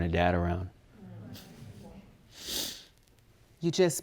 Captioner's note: audience groaning